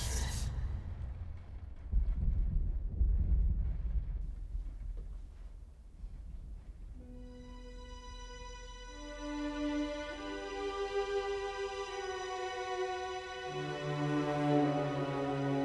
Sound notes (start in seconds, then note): 2.3 thunder rumbling; 7.0 dramatic music